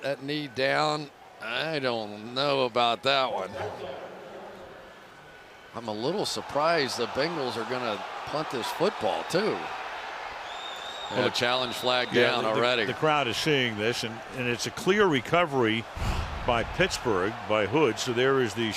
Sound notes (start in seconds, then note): 4.4 pa announcement